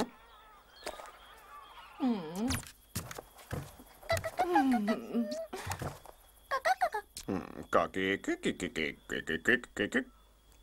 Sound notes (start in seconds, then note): 4.0 clucks; 7.9 clucks